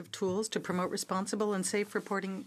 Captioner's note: speaking French